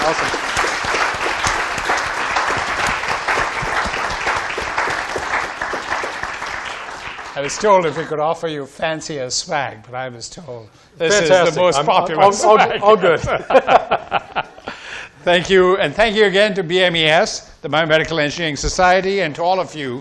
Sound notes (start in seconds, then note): 0.0 audience applauding; 12.2 laughs